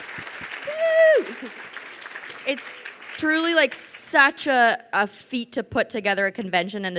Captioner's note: cheers